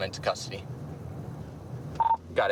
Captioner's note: radio beeps